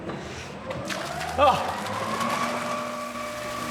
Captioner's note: machine whirrs